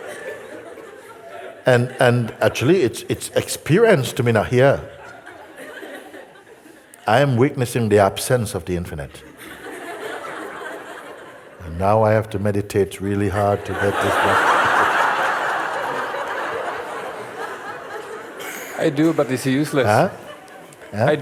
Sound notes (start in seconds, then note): 15.3 laughter